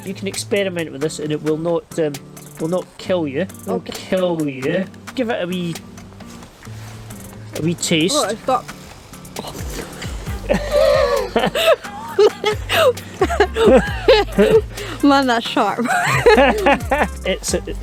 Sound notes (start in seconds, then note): 9.4 laughs